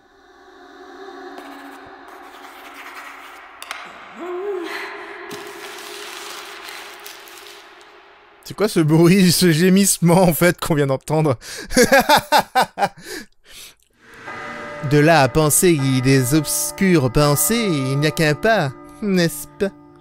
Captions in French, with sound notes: *Gémissement* C'est quoi ce bruit de gémissements en fait qu'on vient d'entendre ? *Rire* *Horloge qui sonne* De là à penser des obscures pensées, il n'y a qu'un pas ; n'est-ce pas ?